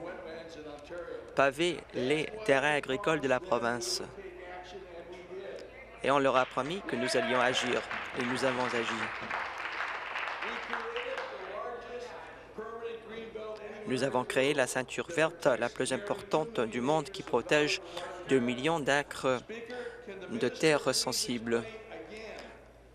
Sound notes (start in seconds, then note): 10.1 applause